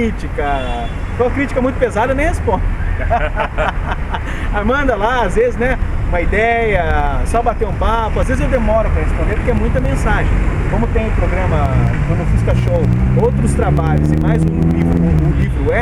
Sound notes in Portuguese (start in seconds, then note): 2.7 risos